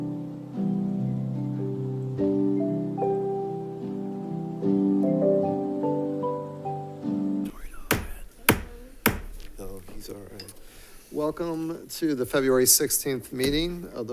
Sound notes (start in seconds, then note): 2.9 soft music continues; 7.5 gavel banging